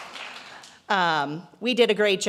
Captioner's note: applause